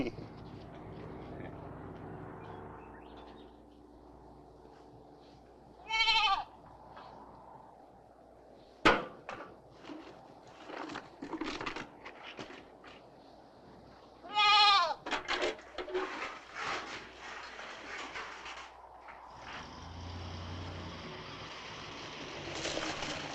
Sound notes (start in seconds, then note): 0.0 David chuckles; 5.8 goat bleating; 19.2 car engine rumbling